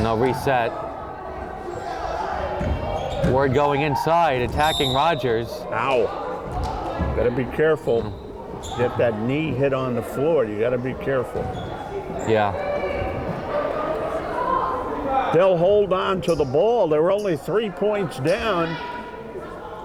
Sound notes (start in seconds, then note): 4.6 whistle blowing; 13.8 crowd chattering